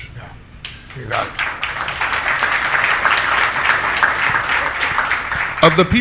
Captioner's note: audience applauding